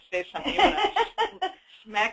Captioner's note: laughs